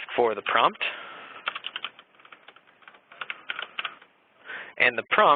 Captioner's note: keyboard typing